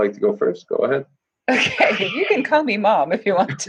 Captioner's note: laughter